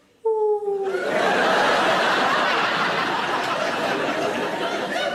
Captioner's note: audience laughing